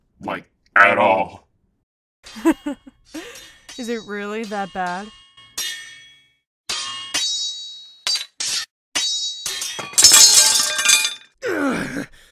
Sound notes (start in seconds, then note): 2.8 soft chuckle; 5.4 Swords clash briefly before sword clatters and The Medjai groans in pain